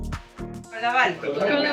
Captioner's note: speaking foreign language